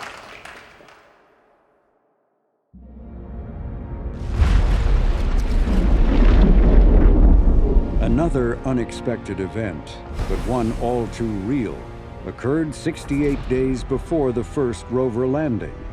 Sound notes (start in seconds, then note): 4.2 loud bang